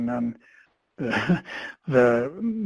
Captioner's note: laughs